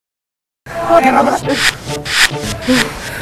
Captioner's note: distorted voices